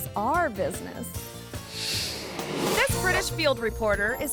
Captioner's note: image whooshes